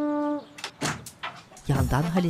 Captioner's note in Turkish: Kapı açılma sesi